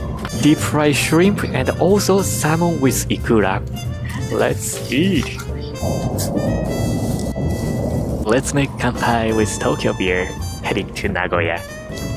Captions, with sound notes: Deep-fried shrimp and also salmon with ikura. Let's eat! [CAN HISSES] Let's make kanpai with Tokyo beer heading to Nagoya.